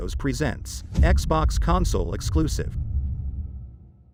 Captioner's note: dramatic sound